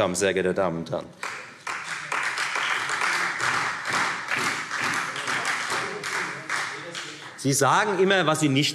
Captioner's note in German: Beifall Freie Demokraten